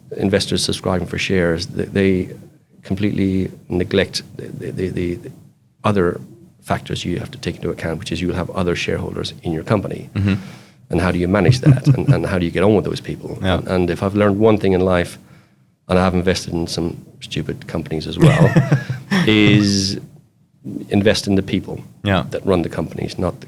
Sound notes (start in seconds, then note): 18.2 laughs